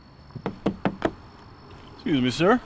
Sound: knocks

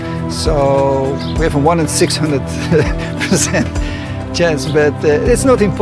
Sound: chuckles

